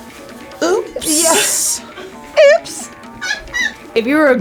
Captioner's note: laughs